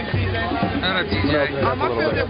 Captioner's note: voiceover